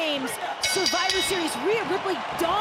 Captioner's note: bell rings